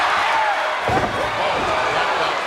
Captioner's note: body thuds